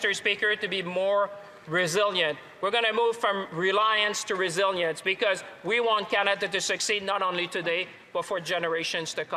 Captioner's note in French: voix de l'interprète